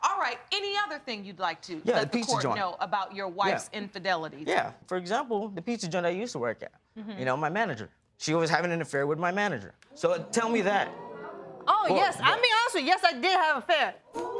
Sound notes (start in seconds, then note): 10.2 audience gasp